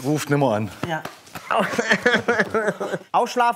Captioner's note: Er jammert